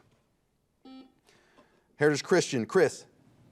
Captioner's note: buzzer beeping